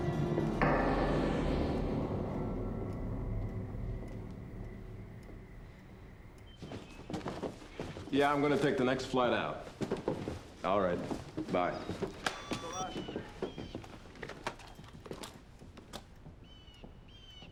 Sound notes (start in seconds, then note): 11.0 line disconnects